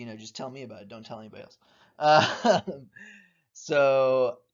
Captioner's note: chuckling